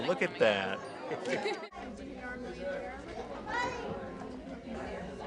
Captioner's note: background chatter